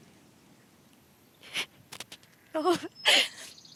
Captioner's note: excited laughter